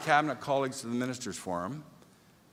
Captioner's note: applause